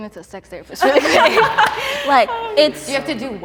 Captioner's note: contestants laughing